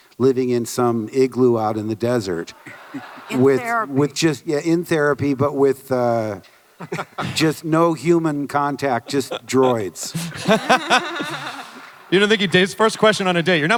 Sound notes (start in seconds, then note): 10.1 laughter